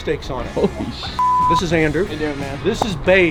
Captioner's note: beep